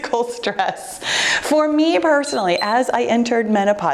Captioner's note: timer beeps